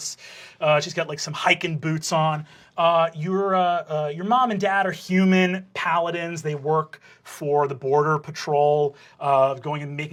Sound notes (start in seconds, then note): none